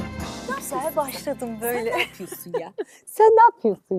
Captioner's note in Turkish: kahkaha